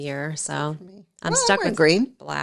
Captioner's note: chuckles